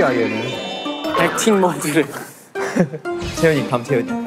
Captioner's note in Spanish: Risas